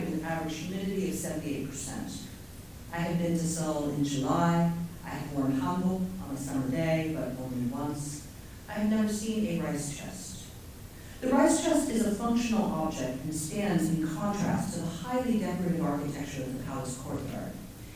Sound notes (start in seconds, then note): 5.9 korean